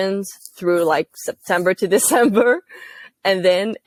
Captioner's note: laugh